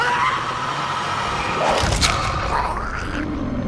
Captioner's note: Maxwell screams